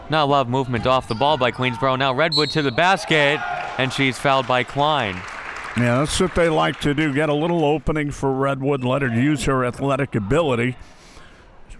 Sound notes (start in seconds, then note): 2.2 referee blows whistle; 5.3 crowd clapping